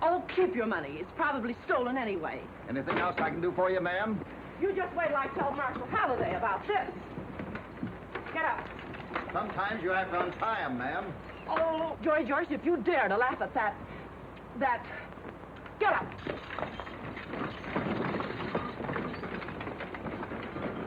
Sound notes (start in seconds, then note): 8.9 reins slap; 15.1 reins slap; 18.0 horse tack clanking; 20.6 wagon creaking; 20.6 wheels thumping